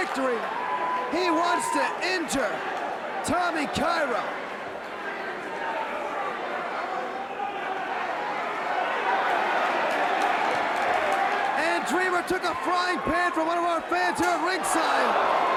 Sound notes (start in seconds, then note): 4.9 crowd chatter